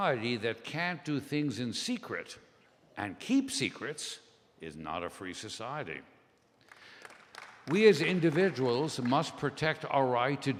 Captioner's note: scattered applause